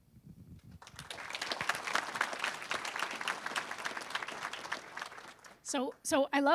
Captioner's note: applause